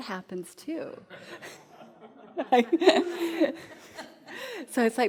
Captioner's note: audience laughing